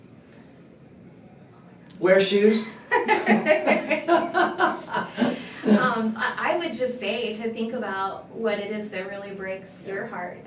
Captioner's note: laughter